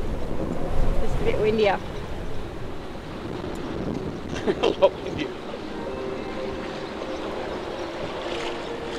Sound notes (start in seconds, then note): 4.3 laughs; 4.8 gentle music